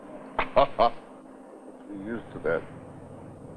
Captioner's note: chuckling